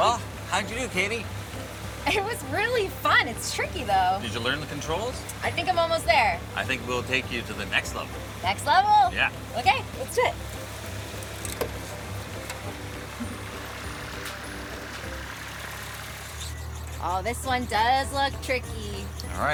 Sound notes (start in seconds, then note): 11.1 seat arm clicking; 13.1 giggles